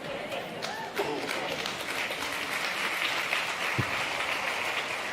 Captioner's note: laughter/Applause